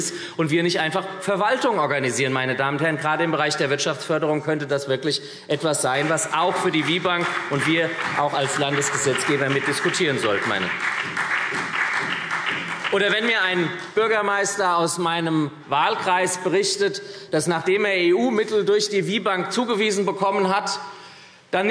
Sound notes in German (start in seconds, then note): 10.6 Beifall SPD